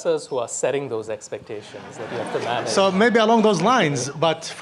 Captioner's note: audience laughs